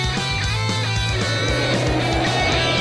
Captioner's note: fwooooooooosh!